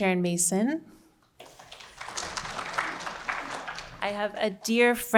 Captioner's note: audience applauding